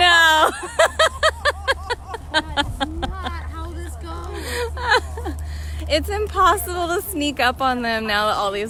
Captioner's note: laughter